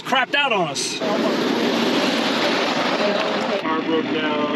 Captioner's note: car engine roaring